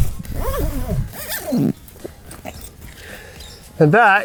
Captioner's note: bag zips